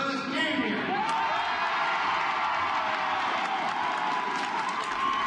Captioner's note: crowd cheering and applauding